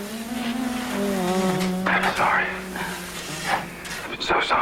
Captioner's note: humming; whispering